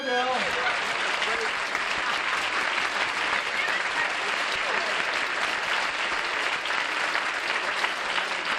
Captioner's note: applause